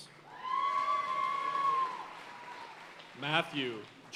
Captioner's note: audience cheering and applauding